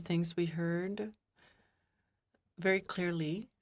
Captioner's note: speaking in French